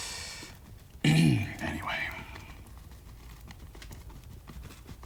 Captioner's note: clears throat